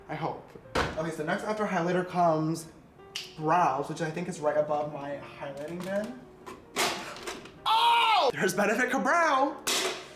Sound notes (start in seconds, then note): 3.1 snapping fingers